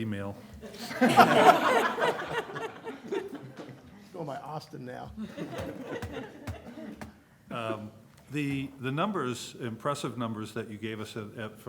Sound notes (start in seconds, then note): 0.6 laughter; 5.1 laughter